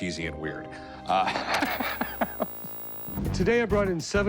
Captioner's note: laughs